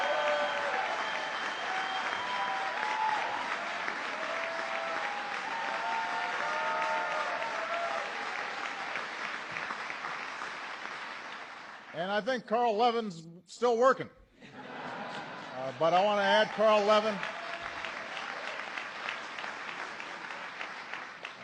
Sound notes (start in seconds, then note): 11.3 laughter; 16.4 applause